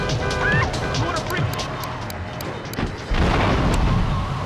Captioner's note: tires screeching; explosion; dramatic music